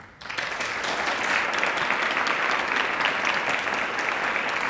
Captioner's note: audience clapping